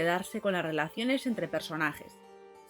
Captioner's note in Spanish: Voz en off